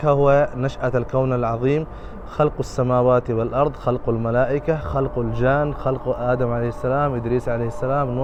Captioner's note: Arabic